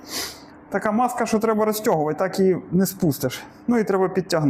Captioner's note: sniffs